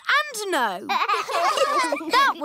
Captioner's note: laughter